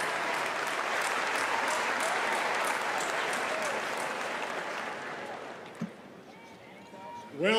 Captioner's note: cheers and applause